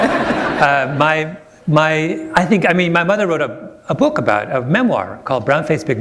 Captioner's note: laughter